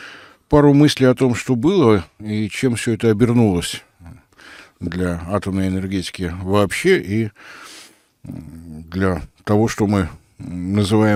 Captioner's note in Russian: фыркает